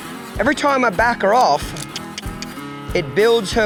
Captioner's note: tongue clicks